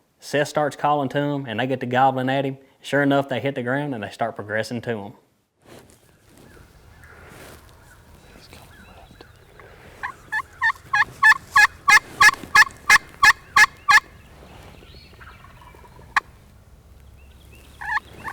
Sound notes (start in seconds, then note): 9.6 turkey call; 16.9 turkey gobbles; 17.5 turkey call